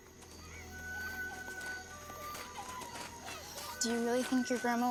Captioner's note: kids chatter